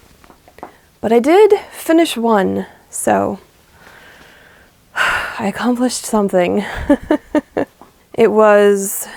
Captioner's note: deep breath, sigh; laughs